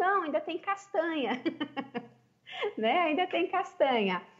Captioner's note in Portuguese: risos